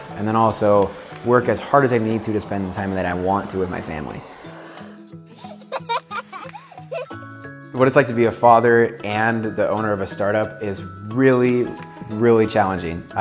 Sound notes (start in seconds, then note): 5.3 child laughter